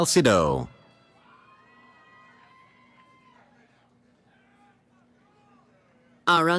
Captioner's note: cheering